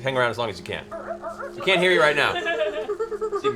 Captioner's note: strange monkey noises; more monkey noises